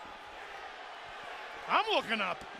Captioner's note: crowd chatter